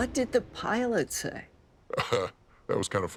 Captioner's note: laughs